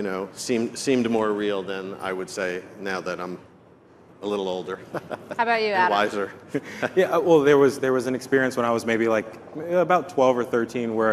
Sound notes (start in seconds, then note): 6.2 chuckles